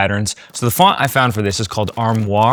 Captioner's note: keyboard tapping